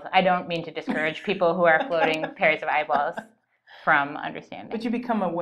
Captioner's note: laughter